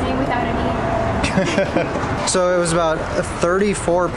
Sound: laughter

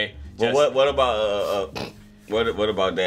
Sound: snorting sound

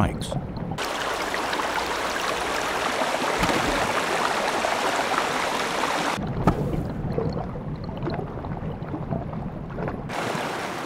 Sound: running water

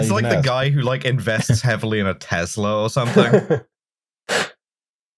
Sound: laughs

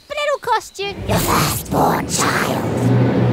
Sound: Kate, demonically speaking

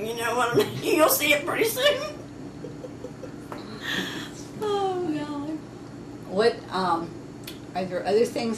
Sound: laughs

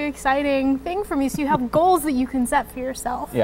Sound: laughs

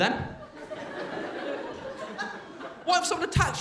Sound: crowd laughing

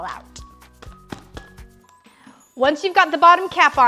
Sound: tapping

